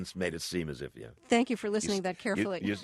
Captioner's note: soundbite of laughter